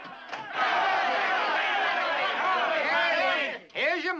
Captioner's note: townsfolk clamoring